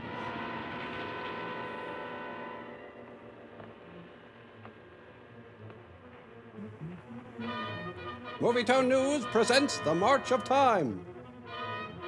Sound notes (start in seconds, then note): 6.6 chuckles